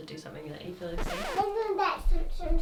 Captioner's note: record scratches